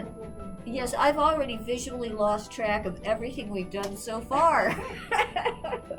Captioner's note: laughs